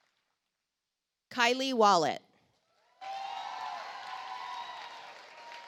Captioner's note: audience applauds